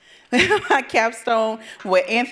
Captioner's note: chuckles